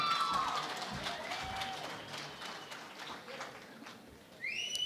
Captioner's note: cheering and Applause